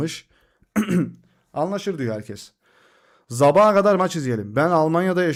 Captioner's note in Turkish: öksürme; boğazını temizler